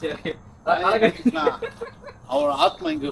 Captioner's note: laughter